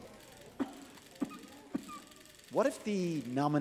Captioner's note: cough